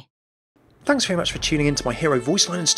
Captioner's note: voiceover